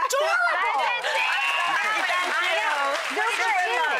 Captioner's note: cheering; clapping